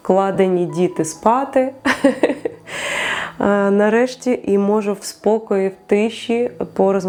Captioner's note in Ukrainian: сміх